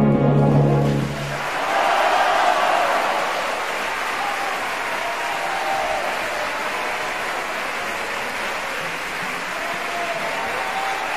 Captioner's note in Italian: applausissimo